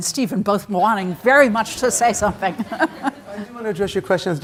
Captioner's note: chuckles